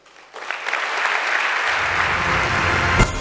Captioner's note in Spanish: Aplausos